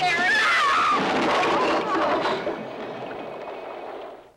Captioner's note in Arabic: صراخ النساء